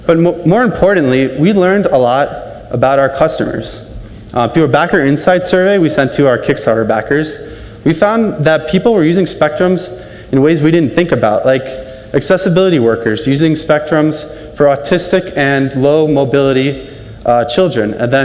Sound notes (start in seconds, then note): none